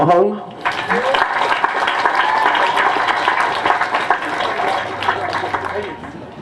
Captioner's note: applause